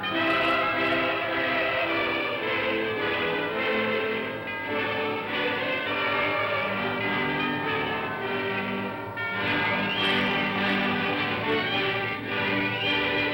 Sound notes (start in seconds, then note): 3.1 bells ringing; 7.6 bells ringing; 9.1 music plays